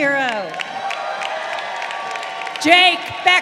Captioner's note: crowd cheering